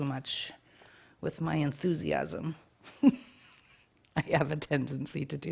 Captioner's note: chuckles